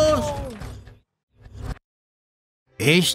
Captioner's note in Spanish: se escucha lamento